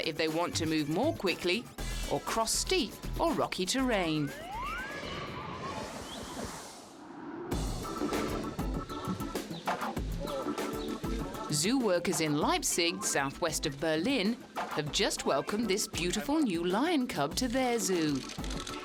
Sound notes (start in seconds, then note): 4.4 birds chirping; 8.1 pleasant music